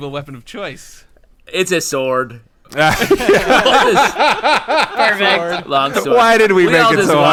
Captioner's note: bursts out laughing